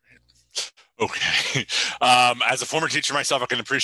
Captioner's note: chuckles